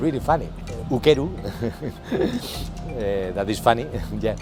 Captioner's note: giggle